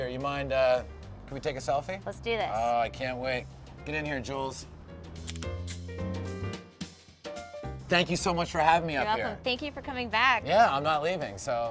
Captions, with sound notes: you mind, can we take a selfie? - Let's do this. - Oh, I can't wait. Get in here Jules. (camera clicks) Thank you so much for having me up here. - You're welcome, thank you for coming back. - Yeah, I'm not leaving, so